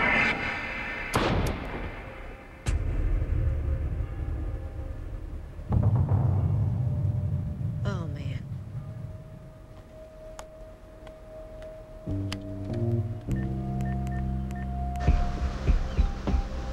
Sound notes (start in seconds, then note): 1.0 gunshot